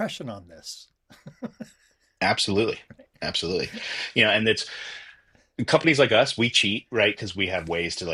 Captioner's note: laughter